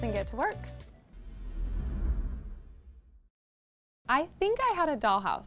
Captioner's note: text whooshing